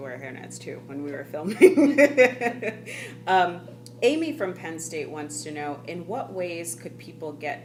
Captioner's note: laughing